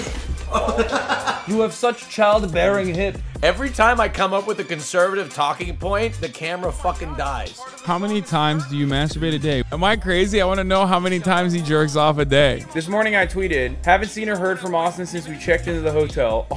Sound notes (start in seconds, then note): 0.4 laughter; 8.0 chatter